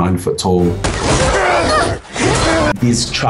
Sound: grunting

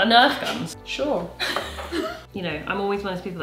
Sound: laughs

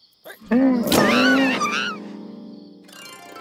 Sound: screams

